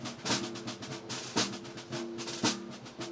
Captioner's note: none